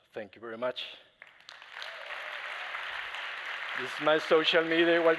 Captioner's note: applause